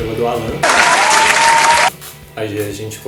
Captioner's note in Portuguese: Aplausos